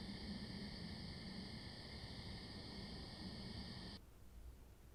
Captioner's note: fire crackling